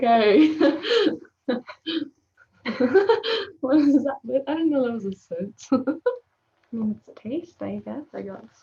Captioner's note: chuckling